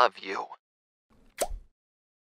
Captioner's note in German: plop